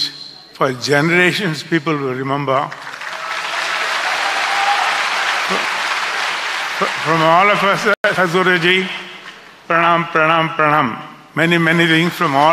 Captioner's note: applause